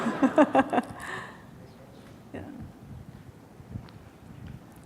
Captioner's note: laughter